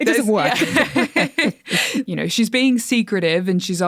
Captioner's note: all laughing